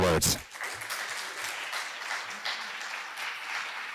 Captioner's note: applause